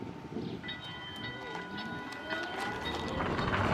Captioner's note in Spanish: sonido del bus